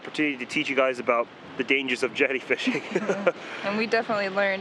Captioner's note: uncomfortable laughter